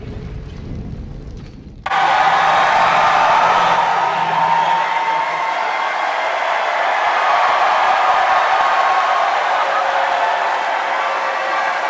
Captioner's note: cheering